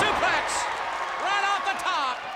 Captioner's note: audience cheers